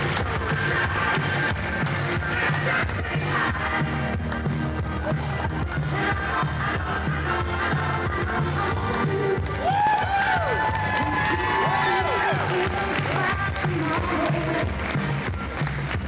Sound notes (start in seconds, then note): 10.6 cheers, applause